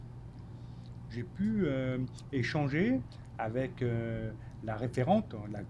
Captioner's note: speaking French